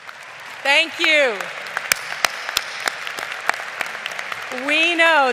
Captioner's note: lead applauding